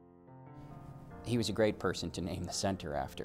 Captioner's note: voiceover